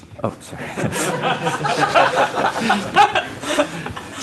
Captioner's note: laughter